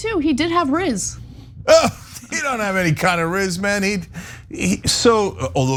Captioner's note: laugh